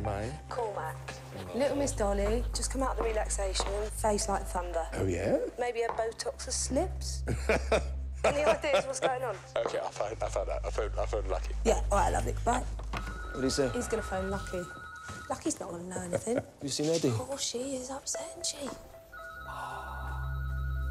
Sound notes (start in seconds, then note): 8.2 laughing